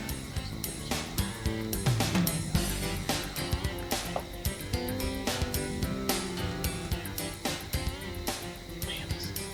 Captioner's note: whispering